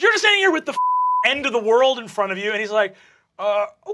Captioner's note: beeping